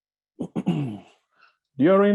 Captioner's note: clears throat